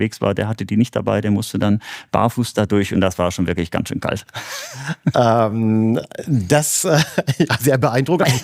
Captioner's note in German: gelächter